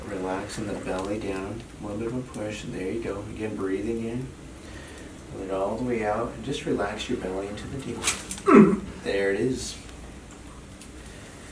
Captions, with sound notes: Relax in the belly down. Little bit of a push. There you go. Again, breathing in, put it all the way out, and just relax your belly into the table. (patient grunts) There it is.